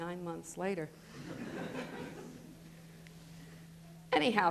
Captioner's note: laughter